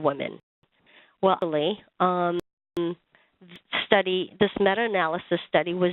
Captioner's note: audio skips